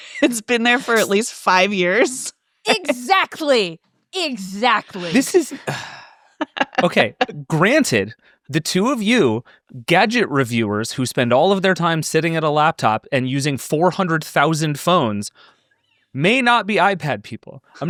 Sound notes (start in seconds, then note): 4.8 sighs